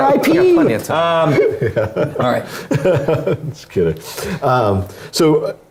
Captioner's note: laugh